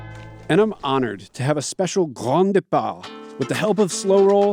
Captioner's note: foreign language